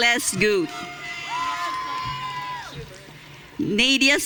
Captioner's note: audience cheering